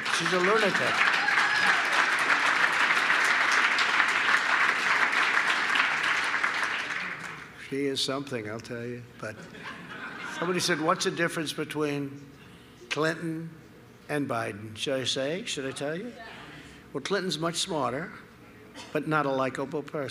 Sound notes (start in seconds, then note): 0.0 applause